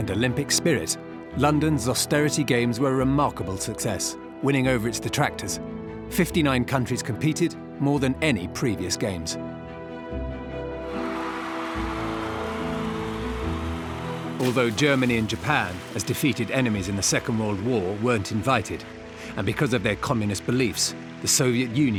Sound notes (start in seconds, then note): 10.8 cheering